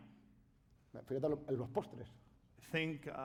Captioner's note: speaking spanish